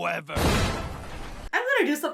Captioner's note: air whooshes; orchestra stabs